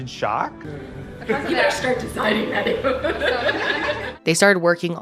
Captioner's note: laughing